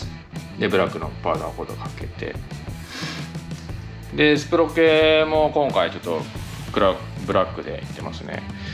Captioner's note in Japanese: 鼻息